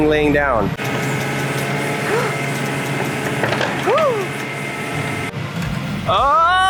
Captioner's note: crane whirring; gasping